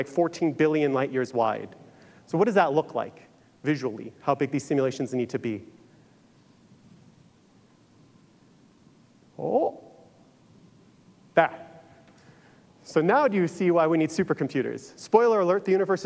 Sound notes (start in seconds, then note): none